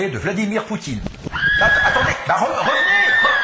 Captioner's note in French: Cris des enfants et fuite